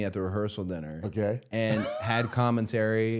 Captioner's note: laughing